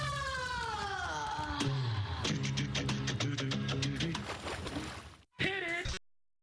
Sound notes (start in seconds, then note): 4.0 water splashing